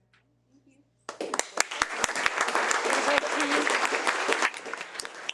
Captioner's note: participants applauding